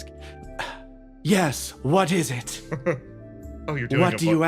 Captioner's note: putting on voice